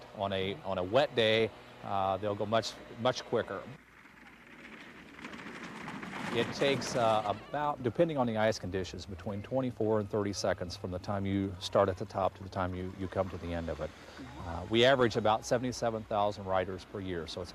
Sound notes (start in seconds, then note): 3.4 sled clanging